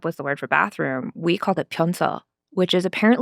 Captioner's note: speaking Korean